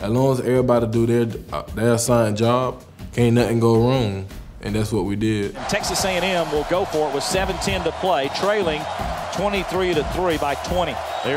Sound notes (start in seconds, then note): 5.7 voiceover